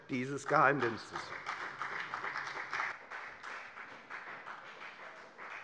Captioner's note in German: Beifall bei der FDP